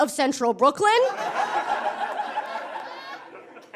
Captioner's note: audience laughs heartily